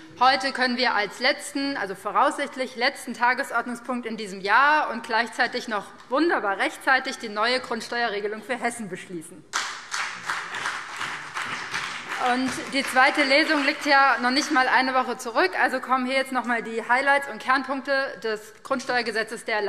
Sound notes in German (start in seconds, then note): 9.5 Beifall BÜNDNIS 90/DIE GRÜNEN und vereinzelt CDU